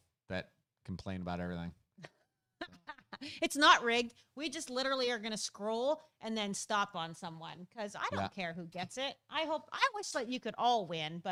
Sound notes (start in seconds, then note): 2.9 laughs